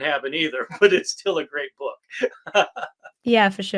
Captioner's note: laughs